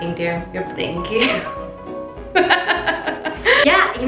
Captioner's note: laughing